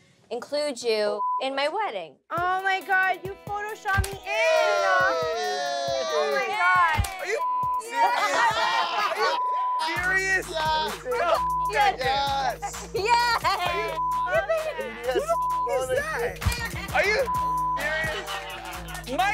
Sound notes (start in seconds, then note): 4.0 cast cheers; 7.3 beep; 11.3 beep; 13.9 beep; 17.2 beep